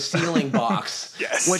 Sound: laughter

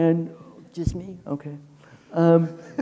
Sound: chuckling

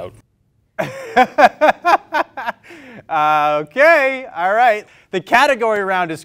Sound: laughs

